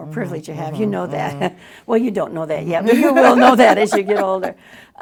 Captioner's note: laughs